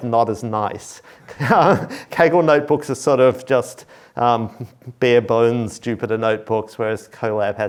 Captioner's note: laughs